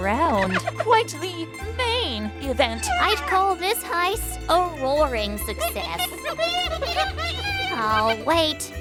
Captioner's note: hyena laugh; hyena laugh